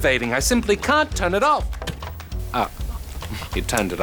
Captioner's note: tv clicks off